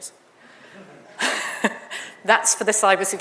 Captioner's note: audience laughs